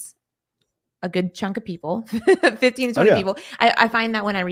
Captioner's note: laughing